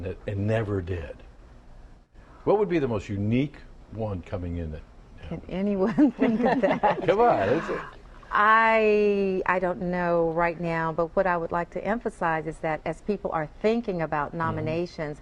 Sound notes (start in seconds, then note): 5.8 laughter